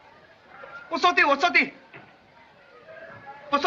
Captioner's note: speaks chinese